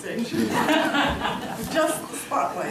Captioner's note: laughing